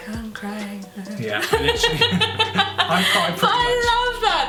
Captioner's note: laughs